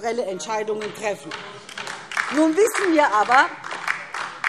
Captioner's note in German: Beifall DIE LINKE und SPD